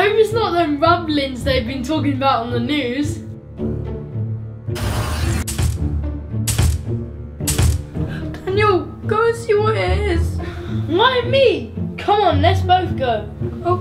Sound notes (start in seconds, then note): 5.0 thumping